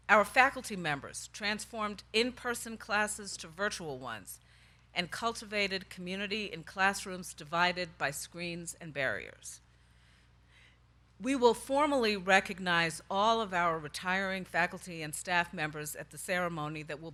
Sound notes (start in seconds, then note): none